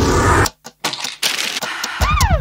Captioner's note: click sound, pill sound and money machine sound; Police sirens